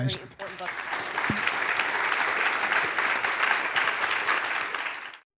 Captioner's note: audience applauding